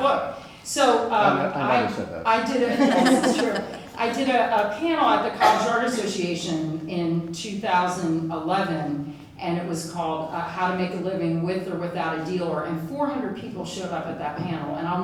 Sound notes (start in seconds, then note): 0.1 audience laughs; 2.6 laughter; 2.7 husband mumbles